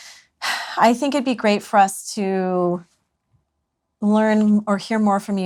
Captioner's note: sighs